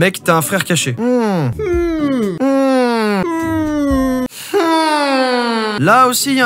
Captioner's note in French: Huuuuuuuuuuuuum